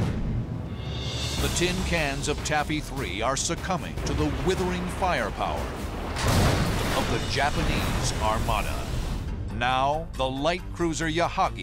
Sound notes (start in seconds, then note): 4.0 explosion